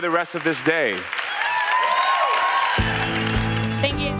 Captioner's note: applause